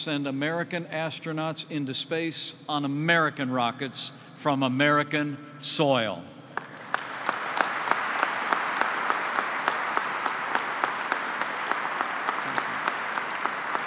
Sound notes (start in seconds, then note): 6.5 applause